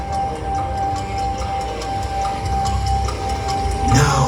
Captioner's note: clock ticking